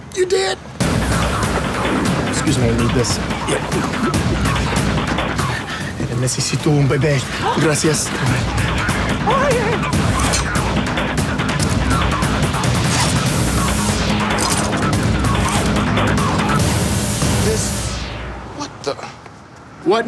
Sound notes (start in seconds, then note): 5.6 speaking Spanish; 8.3 intense drumming music